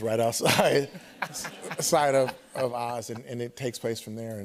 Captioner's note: light laughter